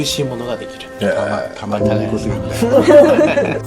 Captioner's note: laughter